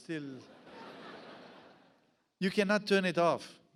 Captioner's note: audience laughs